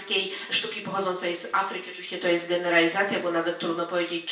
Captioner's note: speaking in foreign language